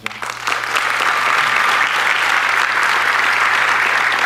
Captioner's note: audience clapping